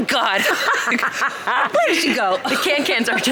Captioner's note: laughing